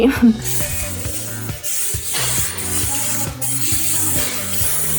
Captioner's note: loud spraying